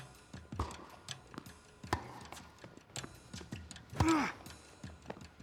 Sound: ball bouncing; rackets smacking; Marshall grunting

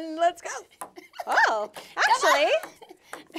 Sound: laughing

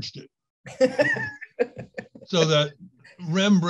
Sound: laughing

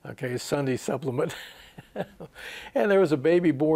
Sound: he laughs

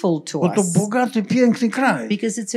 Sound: foreign language

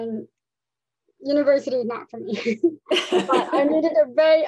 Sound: laughs

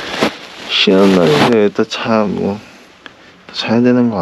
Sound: whiny

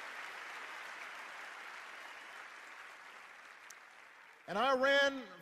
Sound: cheers and applause

